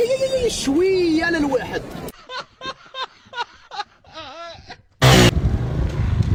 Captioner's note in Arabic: ضحك